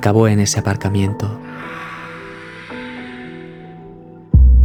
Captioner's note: shout